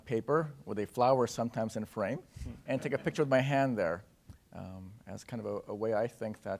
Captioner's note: laughter